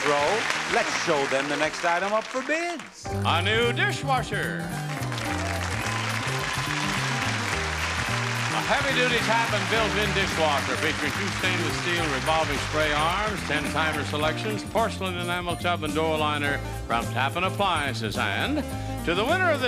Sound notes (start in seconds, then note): 4.6 audience clapping; 4.6 upbeat music